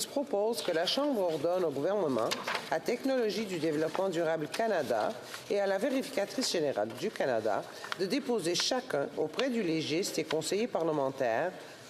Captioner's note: speaking French